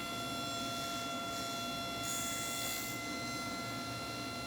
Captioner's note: table-saw whining